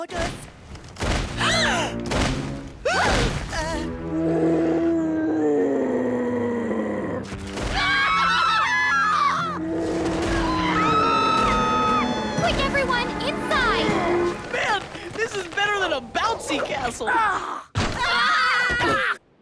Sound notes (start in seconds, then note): 3.3 gasping; 6.6 roaring; 7.7 screaming; 11.1 roaring; 18.0 screaming